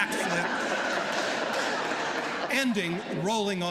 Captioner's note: laughter